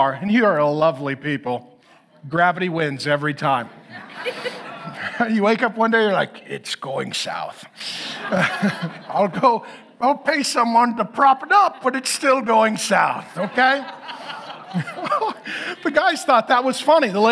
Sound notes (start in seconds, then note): 3.6 audience laughs; 14.8 laughs